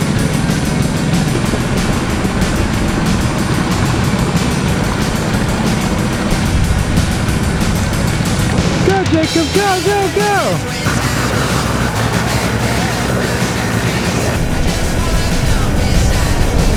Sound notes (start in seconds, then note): 10.4 upbeat rock music; 12.0 engine revving